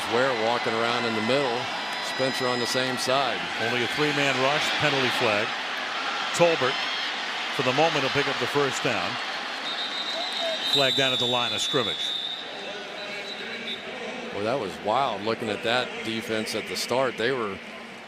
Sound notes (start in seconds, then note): 9.6 whistling; 13.0 pa announcement